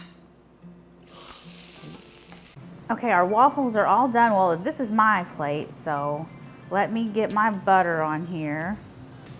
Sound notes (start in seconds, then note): 1.1 batter sizzling